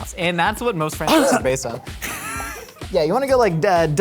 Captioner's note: coughs